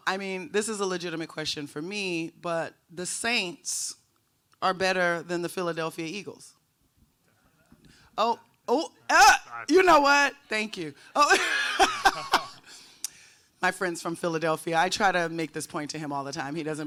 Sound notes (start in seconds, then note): 11.1 laughs